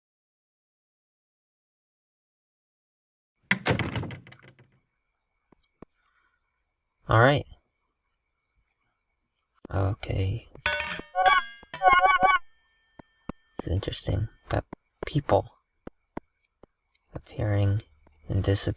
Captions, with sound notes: (door slams shut) All right. Okay. (bright tones) This is interesting, got people appearing and disappearing.